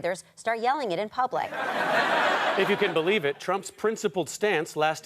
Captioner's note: audience laughter